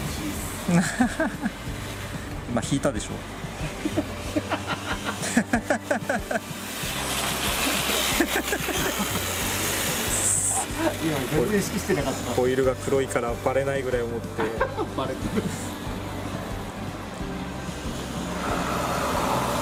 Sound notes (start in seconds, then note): 10.5 laughs